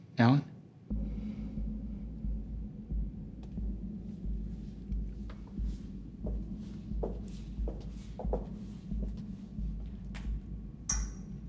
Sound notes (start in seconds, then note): 1.8 tense music; 7.5 footsteps approaching